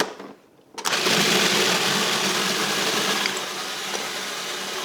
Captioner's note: food processor whirs